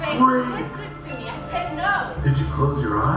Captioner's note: ding